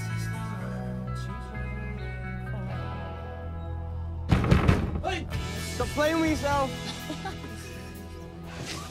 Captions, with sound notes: Oi! Stop playing with yourself! [laughs]